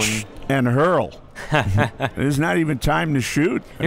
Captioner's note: laughs